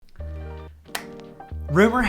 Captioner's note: lively music; hands clapping